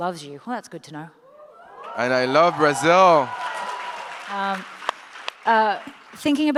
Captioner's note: audience applauds